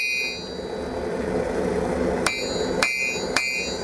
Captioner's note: bell